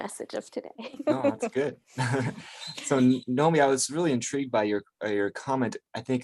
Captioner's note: laughs